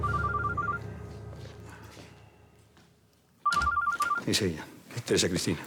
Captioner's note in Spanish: Suena el teléfono